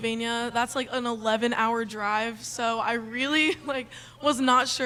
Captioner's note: laughs